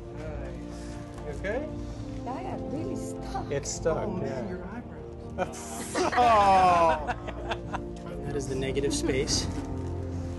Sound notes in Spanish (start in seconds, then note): 5.4 Risas y quejidos